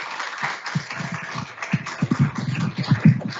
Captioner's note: crowd applauds